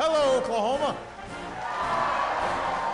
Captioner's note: applause and cheers